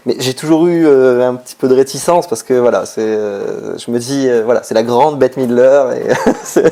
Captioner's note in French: rires